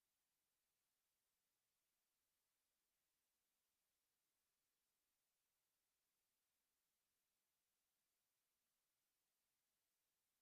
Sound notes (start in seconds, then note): none